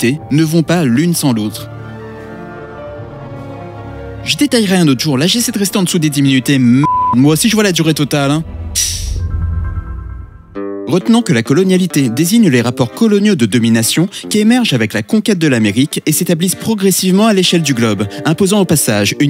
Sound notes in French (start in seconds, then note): 6.8 bip